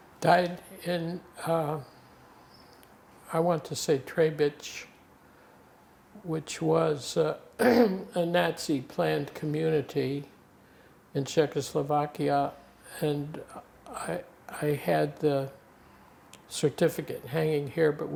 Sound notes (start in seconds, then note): 7.6 clears throat